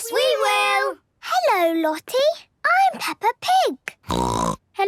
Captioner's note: snorting